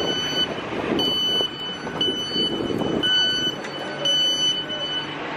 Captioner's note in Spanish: sonido de apertura de puertas